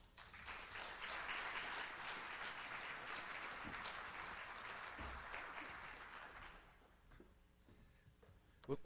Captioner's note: audience applauds